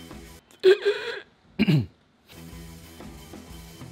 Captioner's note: person chokes; relaxing music